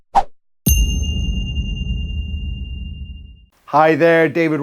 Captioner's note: whooshes; dinging bell